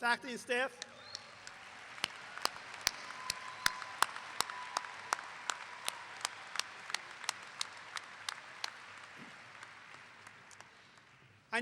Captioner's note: clapping